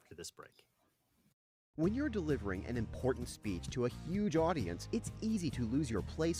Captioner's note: voiceover